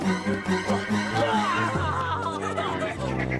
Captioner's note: moans